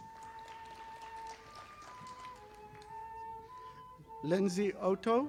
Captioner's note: audience applauding